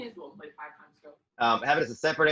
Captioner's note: speaks faintly